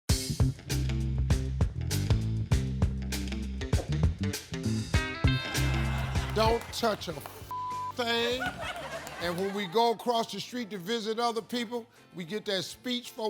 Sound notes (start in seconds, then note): 0.2 upbeat music; 7.5 beeping